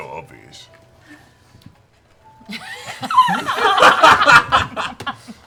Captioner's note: laughter